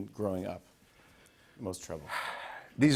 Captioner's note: sighs heavily